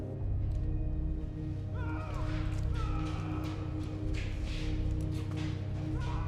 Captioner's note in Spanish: gritos indistintos